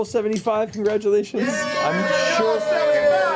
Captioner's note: cheering